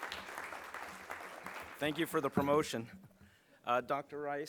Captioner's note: applause